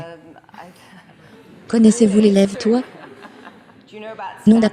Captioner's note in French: Rire